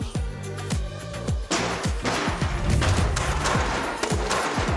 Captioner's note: boards clattering